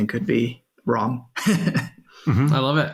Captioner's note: laughs